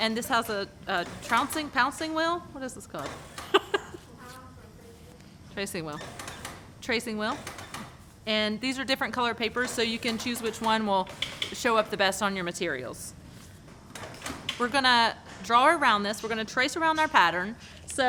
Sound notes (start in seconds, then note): 3.4 laughs